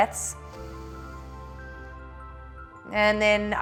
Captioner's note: inhales